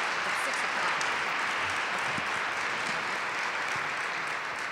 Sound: crowd applauding

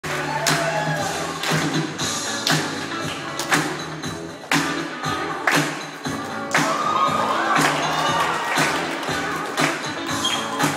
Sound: crowd claps and cheers for dancer

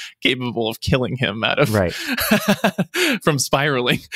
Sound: laughs

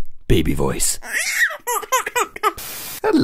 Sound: baby crying

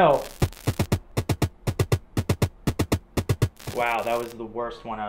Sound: upbeat drum music; static crackles

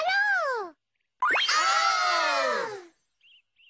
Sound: everyone cheerfully exclaims

